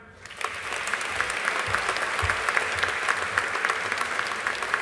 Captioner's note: audience applauding